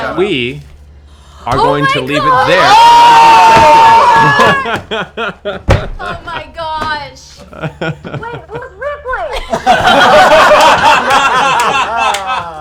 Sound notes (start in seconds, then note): 2.4 shouting; 9.3 laughter